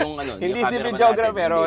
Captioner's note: laughs